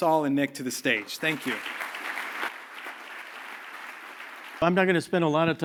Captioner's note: applause